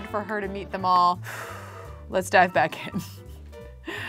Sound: exhales deeply

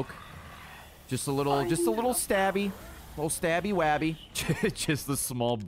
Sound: laughs

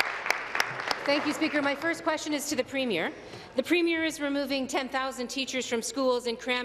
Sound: applause

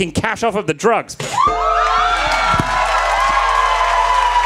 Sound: crowd cheering

